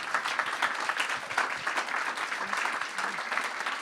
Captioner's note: crowd applause